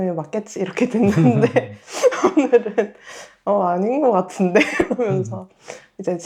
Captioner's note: laughs